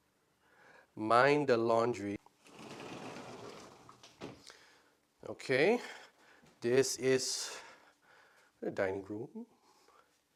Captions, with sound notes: Mind the laundry. (door sliding) Okay. This is a dining room, kitchen.